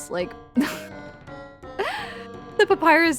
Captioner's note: laughs with thinly veiled incredulity